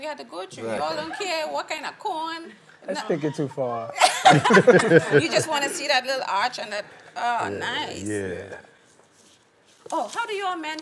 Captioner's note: laughing